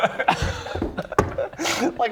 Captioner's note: schoolboy giggles